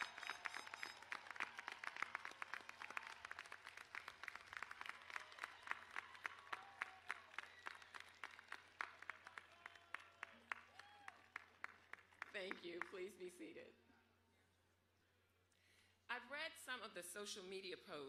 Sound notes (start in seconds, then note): 0.0 applause